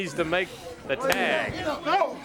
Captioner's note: crowd chatter